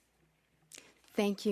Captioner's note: speaking French